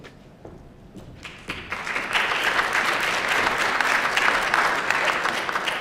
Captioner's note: applause